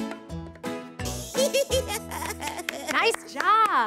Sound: giggles

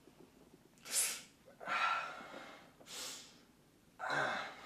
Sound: Rob hisses

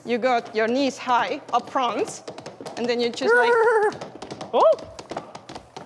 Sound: neighing

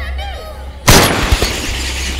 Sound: gunshot

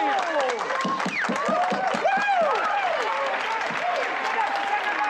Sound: crowd cheering

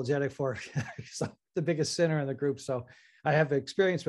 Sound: chuckles

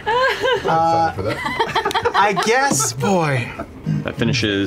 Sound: laughter

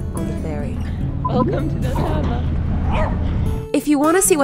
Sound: dog barking

